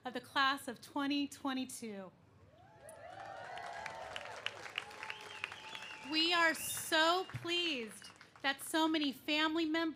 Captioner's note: cheers and applause